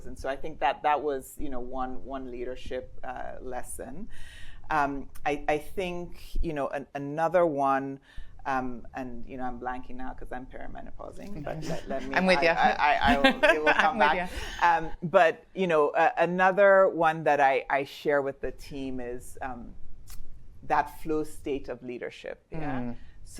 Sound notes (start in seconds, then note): 11.4 laughs